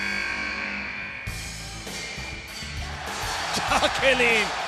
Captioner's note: applause